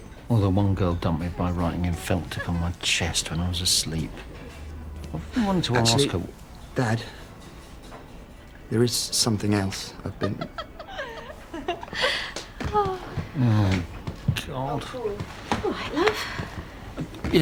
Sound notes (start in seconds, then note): 10.1 sue laughs